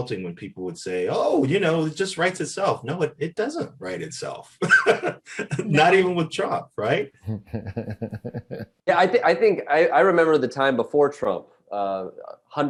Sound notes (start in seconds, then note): 4.6 Eric laughs; 7.2 Roy laughs